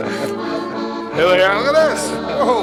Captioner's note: laughs